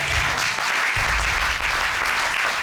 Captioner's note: applause